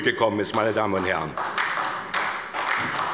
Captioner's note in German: Beifall bei der SPD